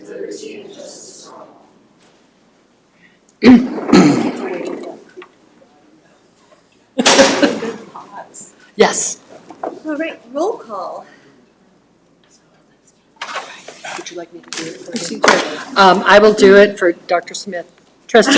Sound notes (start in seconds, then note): 7.4 woman chuckles